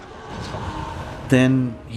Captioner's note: screams